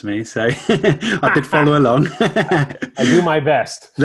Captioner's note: laughs